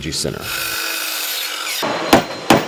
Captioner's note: sawing noise